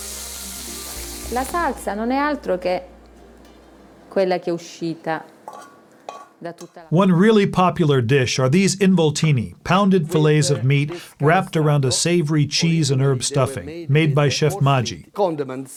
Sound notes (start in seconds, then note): 1.3 speaking Italian